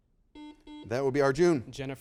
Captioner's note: buzzer beeping